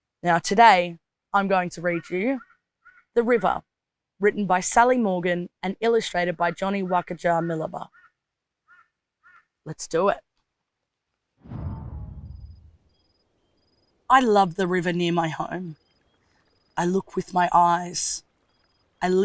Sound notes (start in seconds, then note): 9.2 crow cowing; 11.4 air whooshing